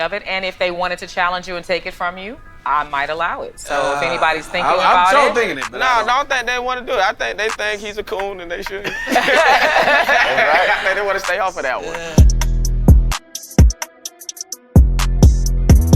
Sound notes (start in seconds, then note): 8.8 all laughing; 12.1 upbeat music